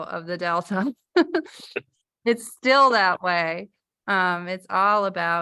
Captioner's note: laughter